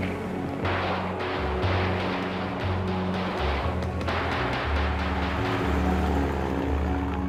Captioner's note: guns firing